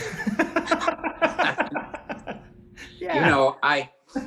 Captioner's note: John laughs